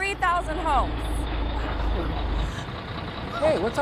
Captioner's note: truck engine sound